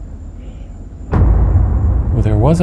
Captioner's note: mysterious voice in background